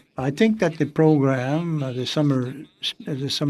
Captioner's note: speaking French